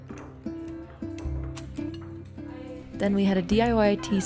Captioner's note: cutlery clinking